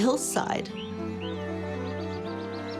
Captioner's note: birds chirping